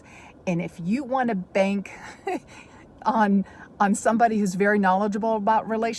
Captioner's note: chuckles